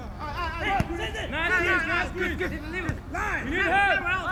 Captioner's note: field chatter